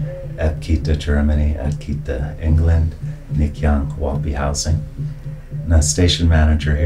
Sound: introducing himself in Hopi

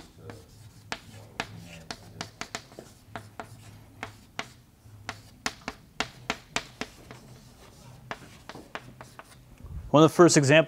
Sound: chalkboard writing

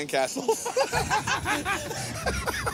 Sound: laughing

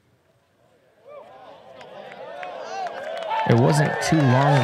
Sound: applause

